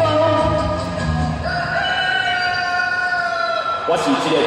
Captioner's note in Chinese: 雞鳴聲